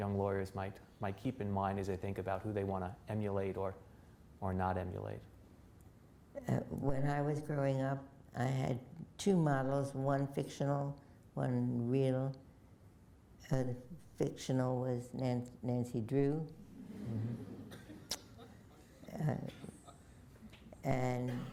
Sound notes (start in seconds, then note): 16.7 laughter